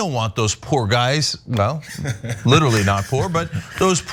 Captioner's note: laugh